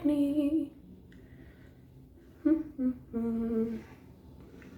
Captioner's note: humming